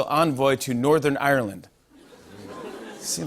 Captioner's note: audience "Oohs"